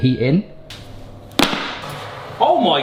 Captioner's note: trivet slams